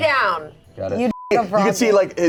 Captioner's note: beep